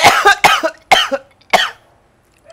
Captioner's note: coughs